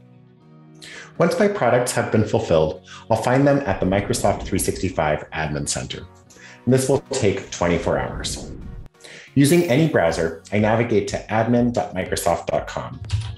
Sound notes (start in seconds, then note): 5.7 electronic rumbling